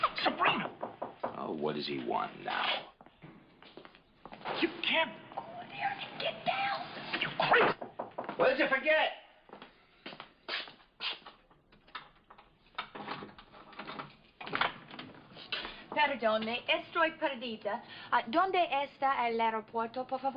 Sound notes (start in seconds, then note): 7.7 knocking on door; 15.4 speaking spanish